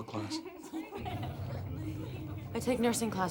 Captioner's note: laughter